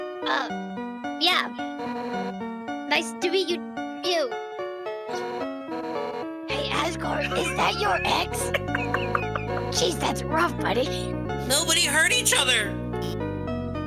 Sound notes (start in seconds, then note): 7.0 laughs